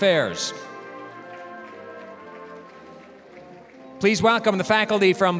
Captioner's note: applause